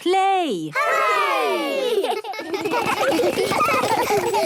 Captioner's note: laughter